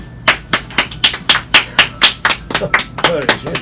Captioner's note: claps